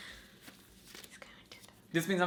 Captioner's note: whispering